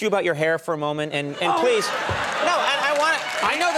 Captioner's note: audience cheering